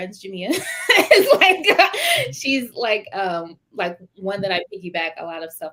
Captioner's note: laughter